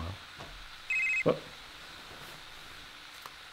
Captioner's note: cell phone ringing